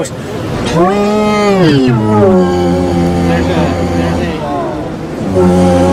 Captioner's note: beeeeee~Wuuuuhhhhh